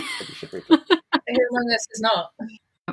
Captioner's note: laughs